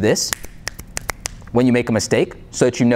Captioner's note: snapping fingers